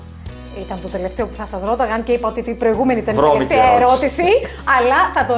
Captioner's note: Χαχα